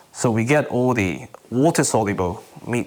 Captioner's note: none